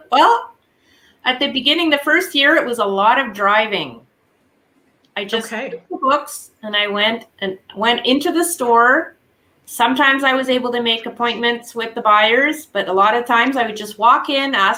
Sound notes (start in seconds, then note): 6.1 faintly speaking